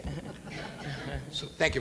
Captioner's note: audience laughs